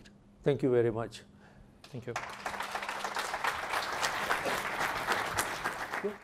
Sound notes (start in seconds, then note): 2.0 applause